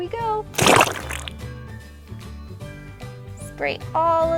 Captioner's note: water gushing